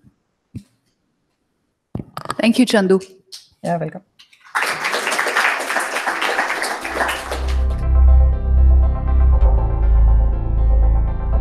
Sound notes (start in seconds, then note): 4.3 applause